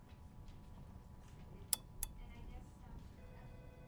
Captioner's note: lamp clicking off